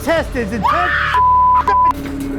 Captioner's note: screams